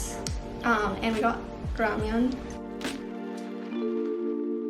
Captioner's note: speaks in Korean